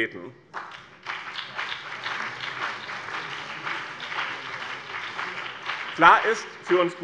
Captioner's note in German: Beifall BÜNDNIS 90/DIE GRÜNEN